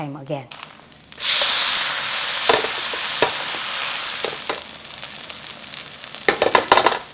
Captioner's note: sizzling